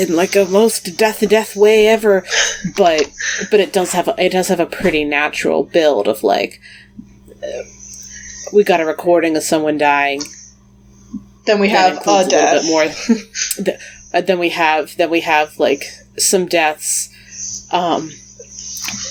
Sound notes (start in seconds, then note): 2.0 laughs